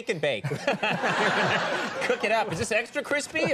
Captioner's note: audience laughs